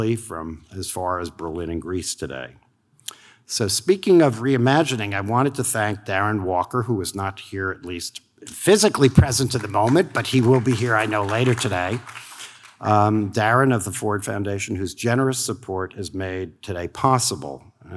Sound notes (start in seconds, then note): 9.2 audience claps